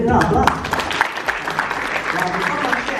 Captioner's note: applause